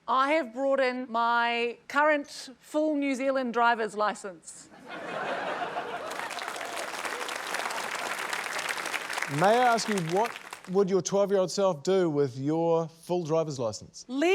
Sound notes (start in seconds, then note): 4.7 laughter; 6.0 applause, cheering